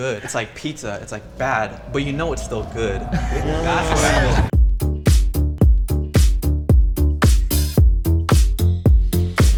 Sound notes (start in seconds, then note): 3.1 laughter; 3.6 whooshing sound; 5.2 upbeat music